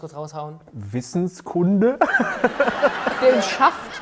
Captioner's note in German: Gelächter